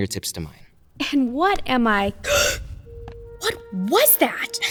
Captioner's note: gasping